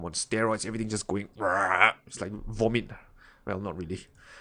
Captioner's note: yells